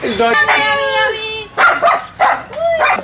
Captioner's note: dog barking